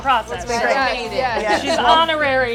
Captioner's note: all laughing